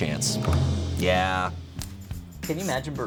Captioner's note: tense music building; button clicks